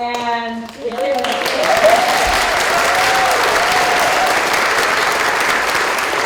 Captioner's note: applause